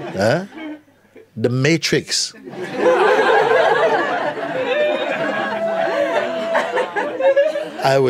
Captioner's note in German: Lachen